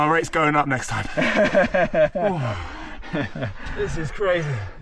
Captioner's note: laughs